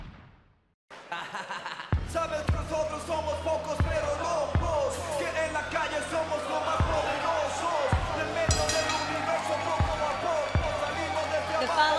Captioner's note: crowd cheering